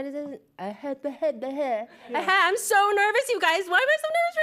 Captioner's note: babbles